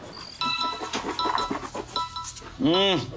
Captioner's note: Phone ringing